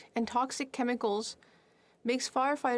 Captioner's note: speaking French